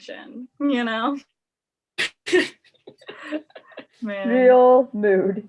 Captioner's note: laughs